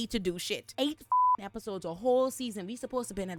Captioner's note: beep